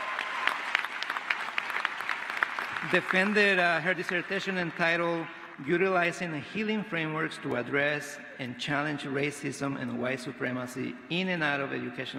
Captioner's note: applause